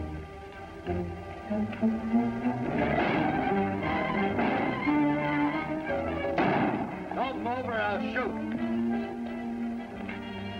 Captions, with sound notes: [gunshots] Don't move or I'll shoot!